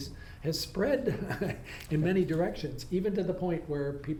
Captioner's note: laughs